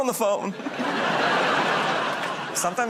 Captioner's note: laughter